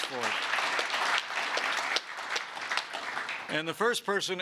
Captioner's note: applause